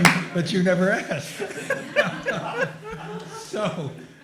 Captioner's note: laughter